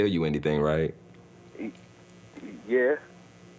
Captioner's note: father, on phone